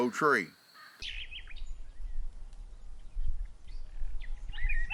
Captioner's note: birds chirping